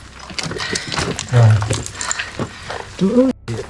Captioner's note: rocks falling